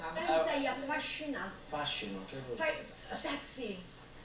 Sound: speaking Italian

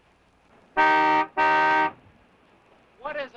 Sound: car horn honking

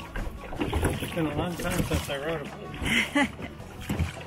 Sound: chuckles

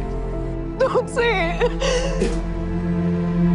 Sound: sobbing

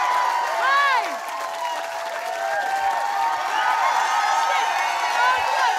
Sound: audience cheering

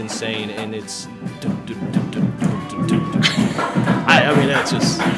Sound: mimics bass drum beat

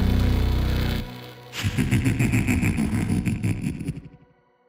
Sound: Zardy laughs

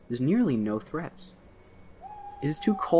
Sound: owl hoots

